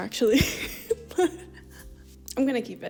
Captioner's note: laughs